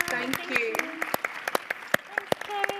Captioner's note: audience applauding